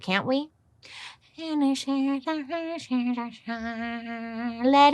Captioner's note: humming